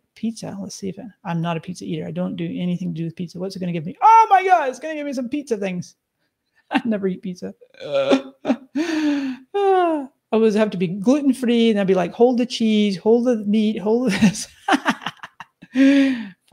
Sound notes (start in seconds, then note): 7.8 laughs; 8.7 sighs deeply; 14.4 laughs